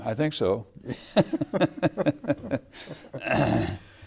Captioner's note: laughing